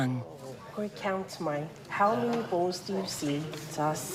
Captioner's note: speaks samoan